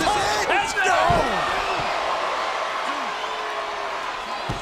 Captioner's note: crowd yelling